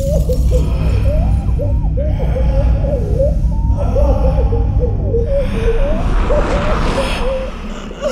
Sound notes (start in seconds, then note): 0.7 muffled screams